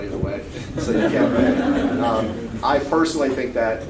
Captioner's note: laughing